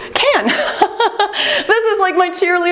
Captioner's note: laughing